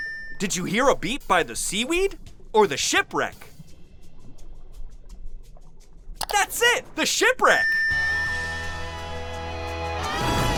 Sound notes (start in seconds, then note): 7.5 beeping